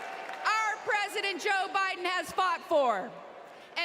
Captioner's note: applause